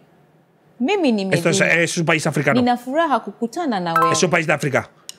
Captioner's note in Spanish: habla en un idioma extranjero